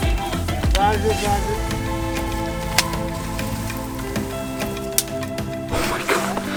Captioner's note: local guide speaking in foreign language